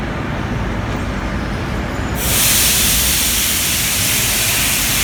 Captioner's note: opening doors of the arriving train